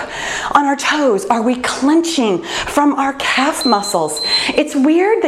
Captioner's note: timer beeps